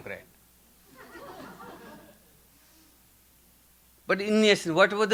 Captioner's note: audience laughing